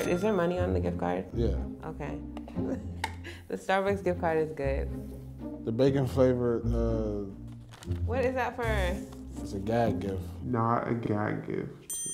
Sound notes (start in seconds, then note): 2.8 laughs; 11.8 bell chimes